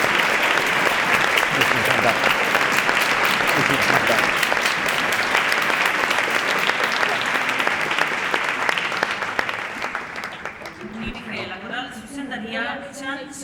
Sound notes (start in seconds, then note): 4.8 applause; 10.6 backstage ambient sound